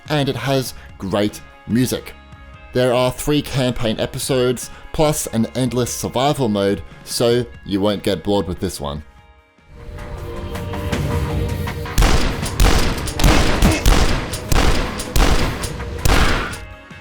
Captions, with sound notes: and it has great music. There are three campaign episodes, plus an endless survival mode, so you won't get bored with this one. (dramatic music) (gun banging)